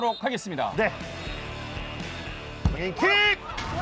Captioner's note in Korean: 호루라기 소리